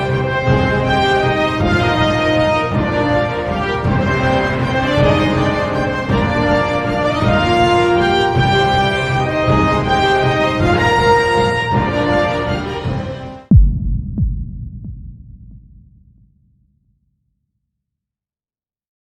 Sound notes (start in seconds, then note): 3.4 dramatic orchestral music continues; 13.5 low thudding